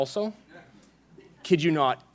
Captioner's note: laughing